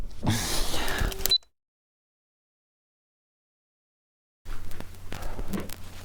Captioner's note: Pete deeply exhales; camera beeps; footsteps shuffling